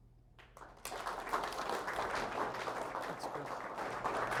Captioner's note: applause